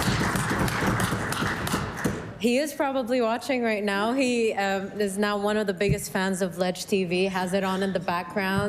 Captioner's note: applause